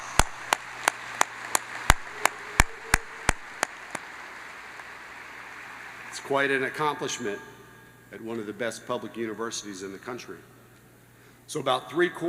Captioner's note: applause